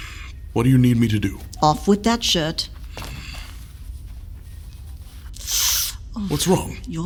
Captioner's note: Rustling of clothes and Shan gasping